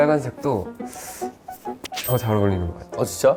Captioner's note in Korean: 쓰읍